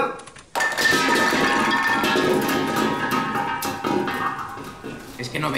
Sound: rumbling noise

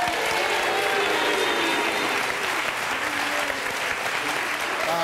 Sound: audience applauds

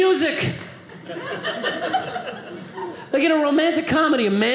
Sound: audience laughing

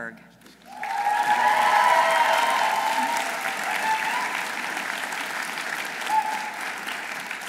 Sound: audience applauding; audience cheering

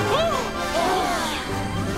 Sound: gasping

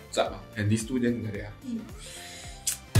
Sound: breathes in deeply

